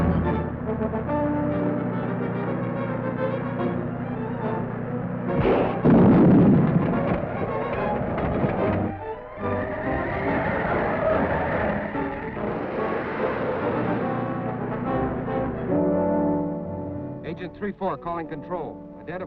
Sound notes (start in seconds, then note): 5.3 gun firing; 5.5 tire exploding; 9.9 wheels screeching